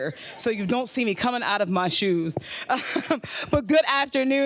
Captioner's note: laughs